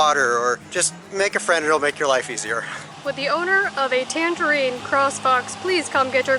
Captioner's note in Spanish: hablando con voz de locutor